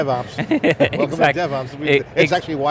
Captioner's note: laughing